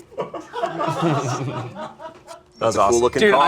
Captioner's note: group laughing